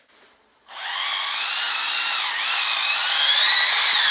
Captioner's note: whirring